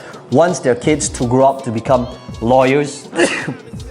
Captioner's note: coughs